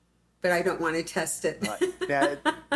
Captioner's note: laughs